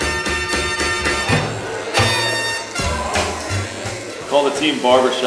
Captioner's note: clippers buzz; voiceover